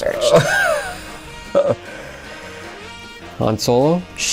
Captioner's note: laughing